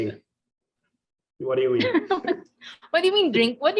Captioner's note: laughing